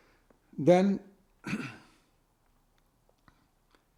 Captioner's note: clears throat